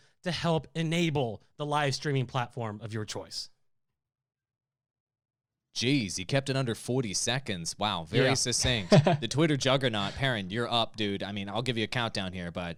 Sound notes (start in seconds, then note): 8.1 laughs